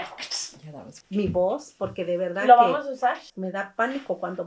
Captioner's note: Spanish